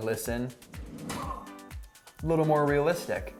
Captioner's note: grunts